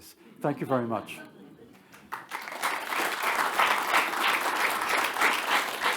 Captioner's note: attendees applauding